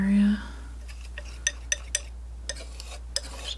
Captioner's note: tapping